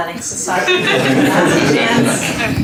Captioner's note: laughter